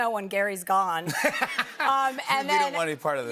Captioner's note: laughter